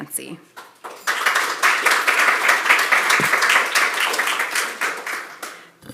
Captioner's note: applause